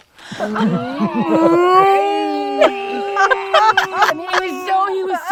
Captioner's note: person humming